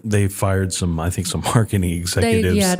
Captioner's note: laugh